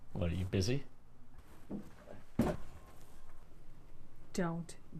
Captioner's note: rustling